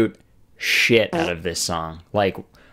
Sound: farting Sound effect

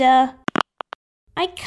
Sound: click!

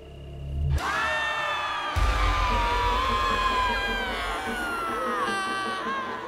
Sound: tense dramatic music; banshee screaming

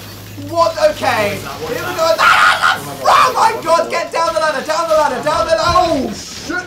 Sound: scared noises

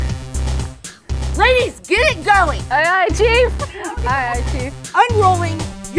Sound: laughs

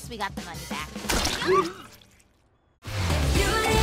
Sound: yelps

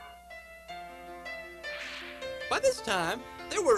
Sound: whip cracks

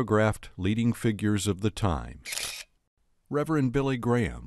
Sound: shutters clicking

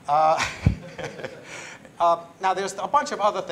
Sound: laughter

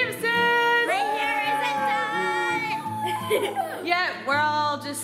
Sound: cheering

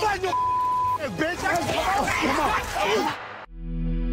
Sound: scuffling; audio logo

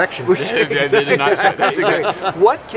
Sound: laughing

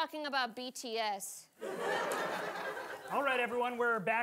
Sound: audience laughing

